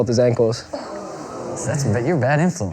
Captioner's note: oohing